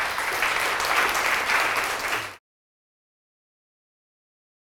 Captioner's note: audience applause